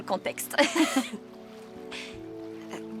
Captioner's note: laughing